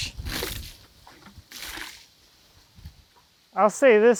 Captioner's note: water splashing